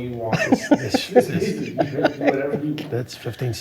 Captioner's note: laughing